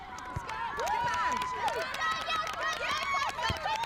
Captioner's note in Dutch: gejuich